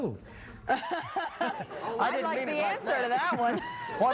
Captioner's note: laughter